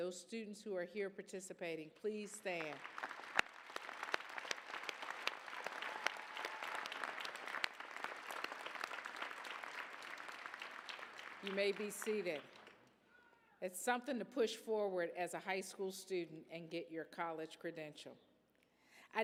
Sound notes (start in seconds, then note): 2.2 applause